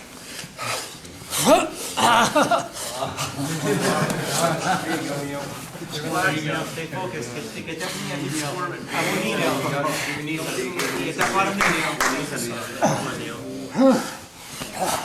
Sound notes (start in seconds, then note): 1.4 moaning loudly; 3.5 men laughing; 10.4 men encouraging fighters